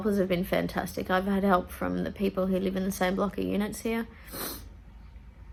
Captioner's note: sniffs